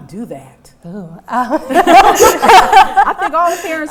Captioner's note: laughing